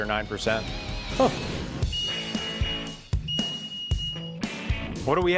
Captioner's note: machines beeping